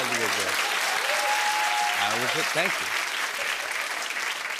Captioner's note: cheering and applause